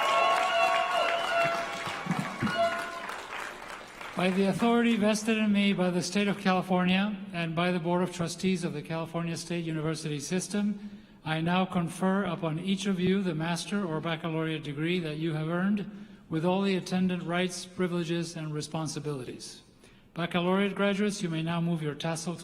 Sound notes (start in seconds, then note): 3.8 applause